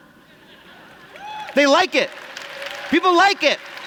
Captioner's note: applause